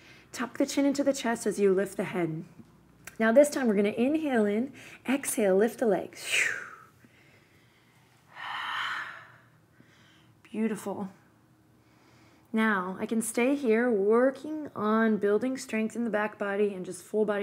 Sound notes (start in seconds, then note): 7.0 deep breath